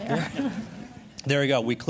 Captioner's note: laughter